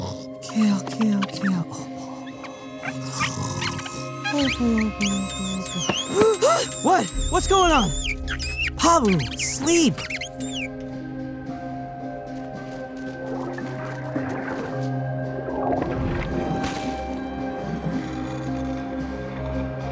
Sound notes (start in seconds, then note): 6.1 gasping